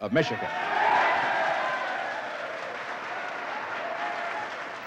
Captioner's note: cheers and applause